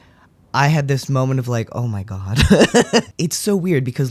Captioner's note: laugh